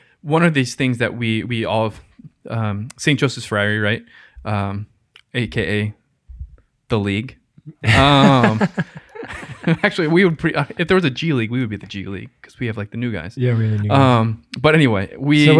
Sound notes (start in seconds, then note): 7.8 laughs